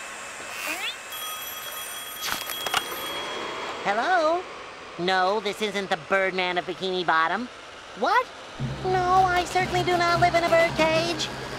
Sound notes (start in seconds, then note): 1.1 phone ringing